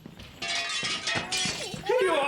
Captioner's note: glass shattering; baby crying